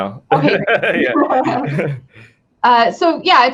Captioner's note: both laughing